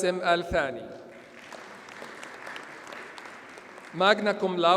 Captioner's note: audience applauds